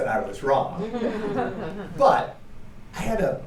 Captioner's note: laughter